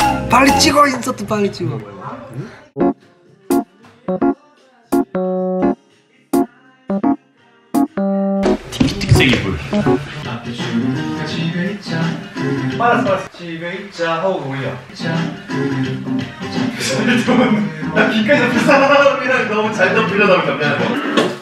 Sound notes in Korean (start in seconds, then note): 16.7 웃음소리